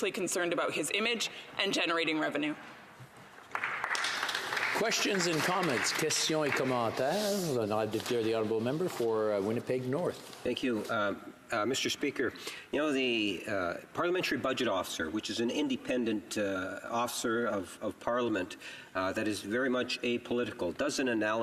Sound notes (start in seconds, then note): 7.8 some Applause; 10.2 speaking French